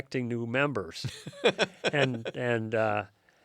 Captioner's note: laughs